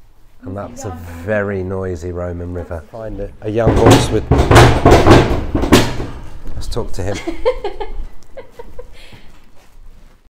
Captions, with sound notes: And that's a very noisy Roman River. A young horse with-- (loud bang) Let's talk to him. (Assistant laughs)